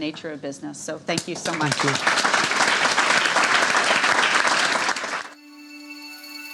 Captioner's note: applauding; uplifting music